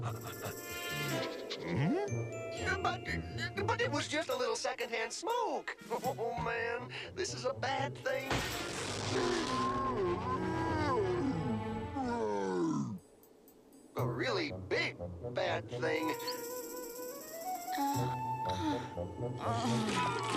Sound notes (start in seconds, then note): 2.2 sniff sniff sniff; 9.9 gasps; 10.2 yawns; 19.3 groaning